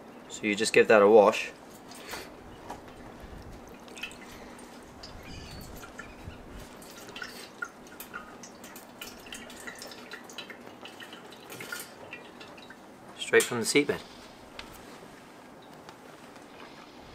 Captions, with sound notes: -So you just give that a wash. [Water pooring] Straight from the seabed.